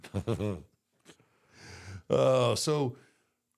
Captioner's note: Michael giggles; chuckles